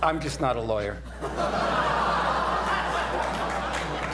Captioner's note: laughter